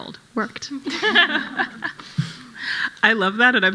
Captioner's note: panel laughing